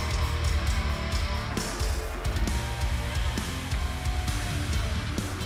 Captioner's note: cheers and applause